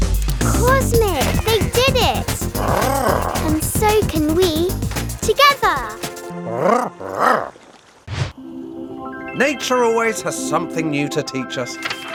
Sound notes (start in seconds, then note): 2.1 Big Lizard trilling; 6.4 Big Lizard trilling